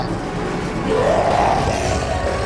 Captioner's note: snarl in the distance